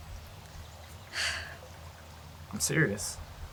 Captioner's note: Joy sighs